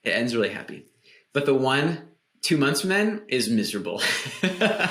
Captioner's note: laughs